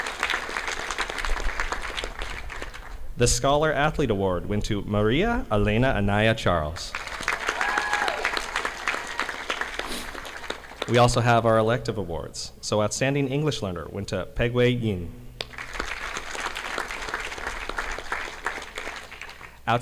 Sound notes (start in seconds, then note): 0.0 audience clapping; 6.9 audience applauding; 15.4 audience clapping